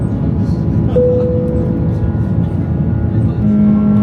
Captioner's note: plane beeping; engine humming